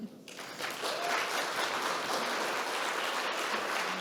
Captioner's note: audience clapping